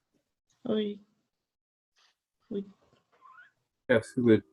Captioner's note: voice muffling